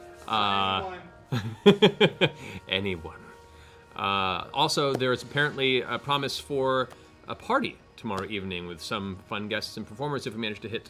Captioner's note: laughs